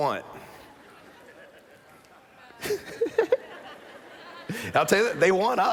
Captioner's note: laughter